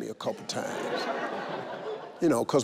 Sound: audience laugh

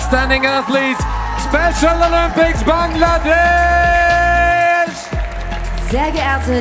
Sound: loud cheering from the team

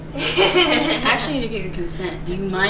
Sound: laughter

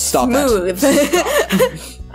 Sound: laughter

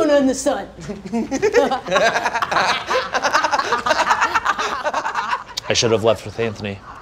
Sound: giggling

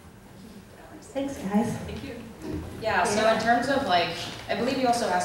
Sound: voiceover

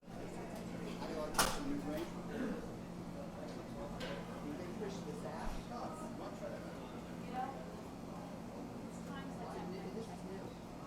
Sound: indistinct chatter

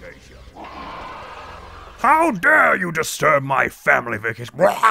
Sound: howls wretchedly

